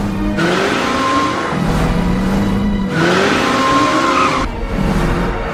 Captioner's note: tire screeching